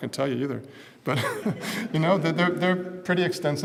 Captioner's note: laugh